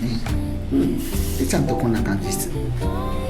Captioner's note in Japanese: 水が出る